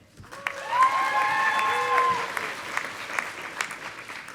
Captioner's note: audience applauding